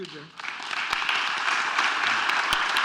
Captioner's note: applause